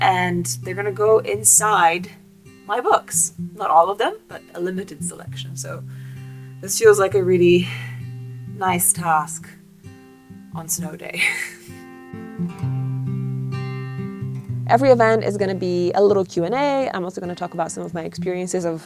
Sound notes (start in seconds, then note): 11.1 chuckles; 12.4 calm guitar music